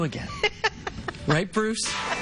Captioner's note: laughs